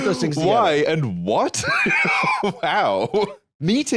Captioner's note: laughs